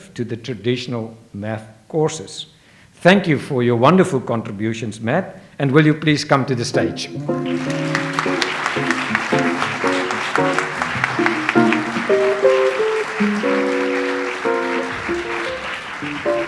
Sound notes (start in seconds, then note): 7.7 light jazz music; 8.7 audience applauds